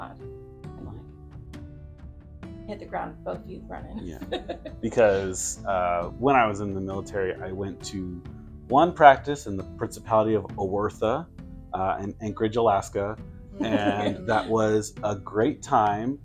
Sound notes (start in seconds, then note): 4.0 chuckles